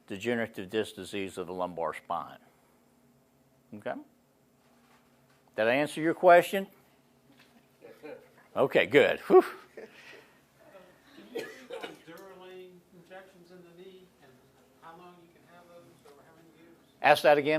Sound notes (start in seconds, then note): 7.1 laughs